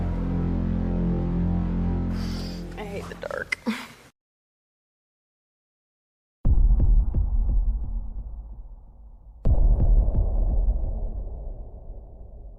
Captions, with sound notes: I hate the dark. (Chuckles)